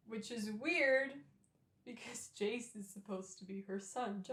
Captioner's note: none